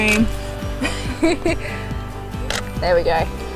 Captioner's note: laughs